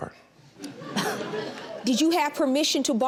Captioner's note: audience laughs